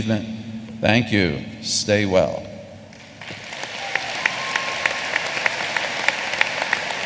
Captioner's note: applause